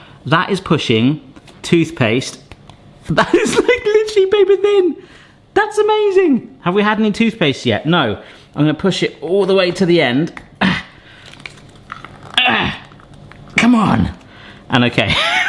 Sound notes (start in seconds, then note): 12.4 grunting